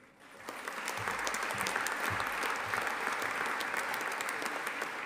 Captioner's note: audience applauding